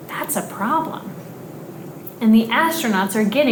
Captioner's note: none